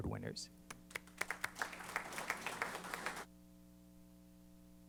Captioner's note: applause